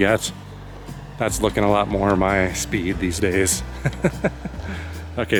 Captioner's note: laughs